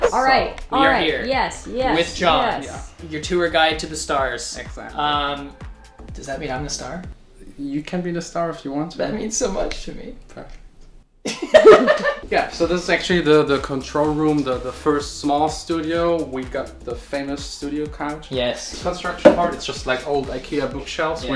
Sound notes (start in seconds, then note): 10.5 scoffs; 11.3 laughs